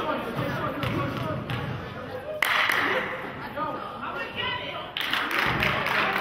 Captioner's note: clapping; audience chattering; clapping